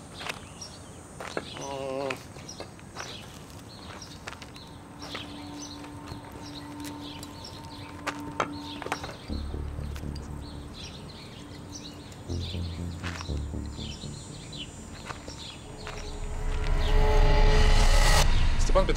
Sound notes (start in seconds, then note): 1.6 grunts; 2.5 footsteps; 9.1 suspenseful music